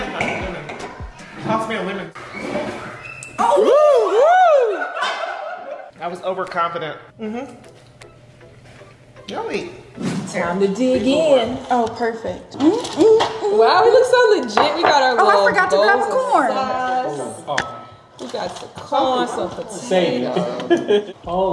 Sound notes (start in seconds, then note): 2.7 whooping; 4.7 laughing; 12.9 humming; 20.4 chuckling